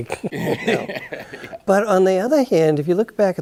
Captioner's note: both chuckle